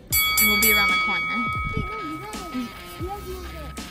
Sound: bell dings

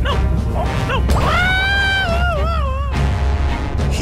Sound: yelping

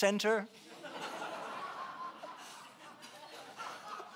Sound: laughing

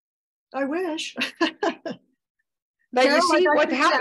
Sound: laughs

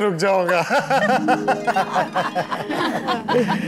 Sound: laughing

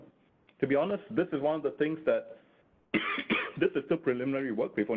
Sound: coughing

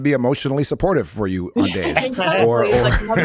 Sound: laughs

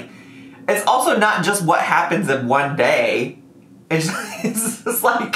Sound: laughs

